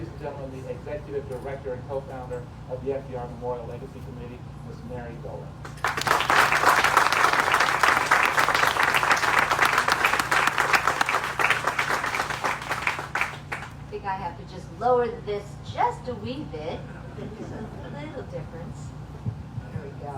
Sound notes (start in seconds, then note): 5.6 applause